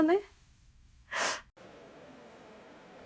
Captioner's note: sobbing sound